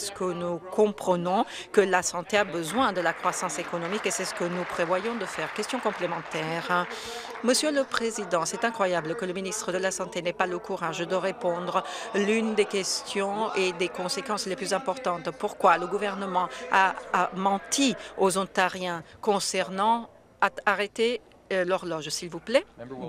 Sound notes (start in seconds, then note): 5.6 some Applause